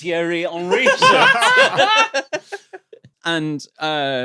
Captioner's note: group laughing